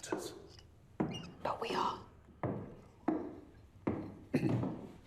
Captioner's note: footsteps approaching; Frederick clears throat